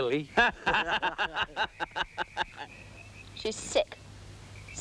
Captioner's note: both laughing